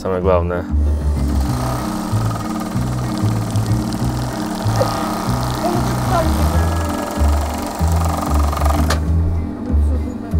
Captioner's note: loom working